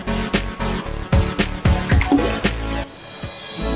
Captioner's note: splashing